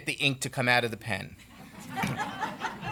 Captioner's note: laughter